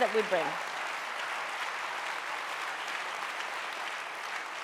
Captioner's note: audience applauding